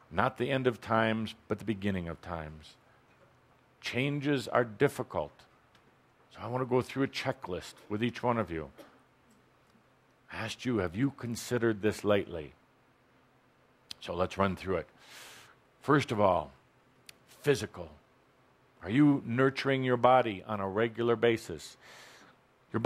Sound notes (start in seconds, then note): none